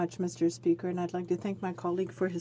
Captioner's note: speaking French